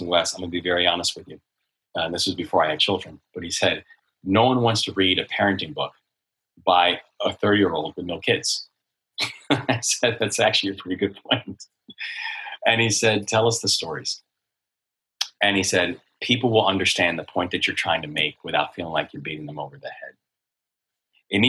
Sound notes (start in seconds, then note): 9.2 laughs